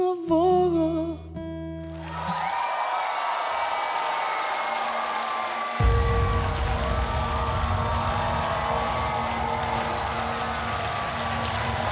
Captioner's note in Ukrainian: оплески